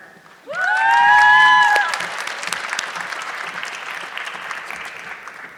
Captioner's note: audience clapping